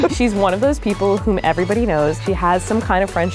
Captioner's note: none